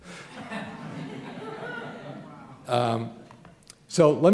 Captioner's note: laughter